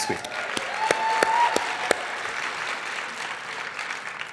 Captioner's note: audience applauding